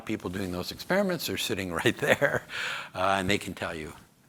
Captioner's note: chuckles